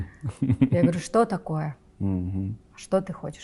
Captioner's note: laughs